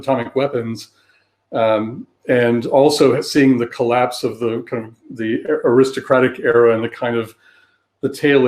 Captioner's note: erm